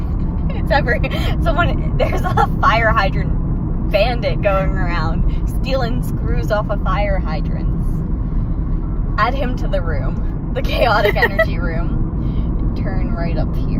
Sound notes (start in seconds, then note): 2.0 laughing so much it affects their speech